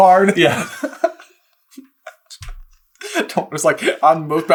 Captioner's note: laughing